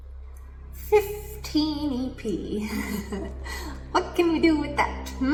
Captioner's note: laughs